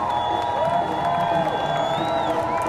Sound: crowd cheering

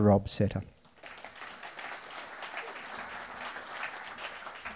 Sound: audience applause

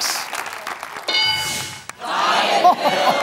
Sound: bell dings

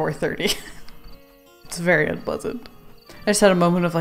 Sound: laughs

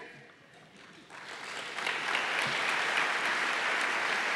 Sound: applause

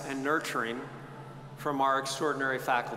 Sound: none

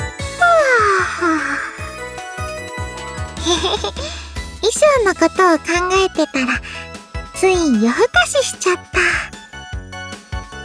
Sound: yawn

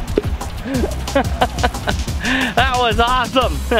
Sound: laughs

